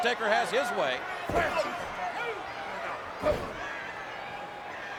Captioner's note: crowd shouting